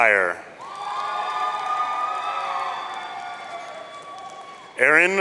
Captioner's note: audience cheering